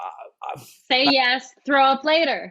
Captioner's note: exhales